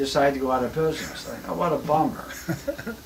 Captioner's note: laughs